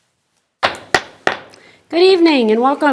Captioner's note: gavel bangs